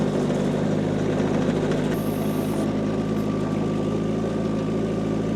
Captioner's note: whirring continues